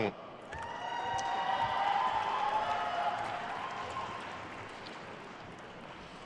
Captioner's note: attendees cheering and applauding